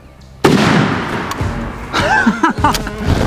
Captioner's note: gun roars; man laughing; upbeat music